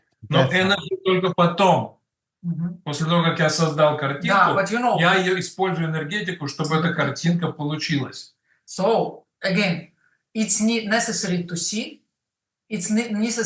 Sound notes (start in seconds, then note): 6.1 Russian